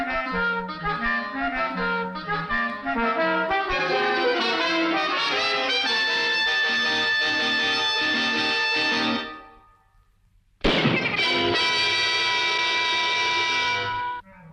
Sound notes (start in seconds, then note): 0.2 dramatic music; 10.6 gun shoots